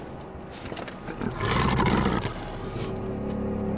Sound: growls

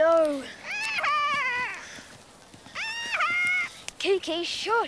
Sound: squawking

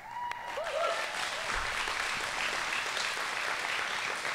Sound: applause

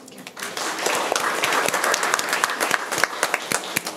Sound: room applauds

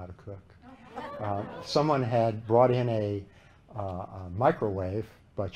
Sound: laughter

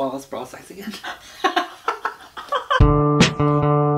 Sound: laughs; gasps; intro music

